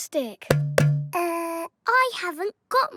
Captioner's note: hollow clunking